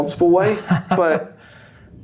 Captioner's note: laughs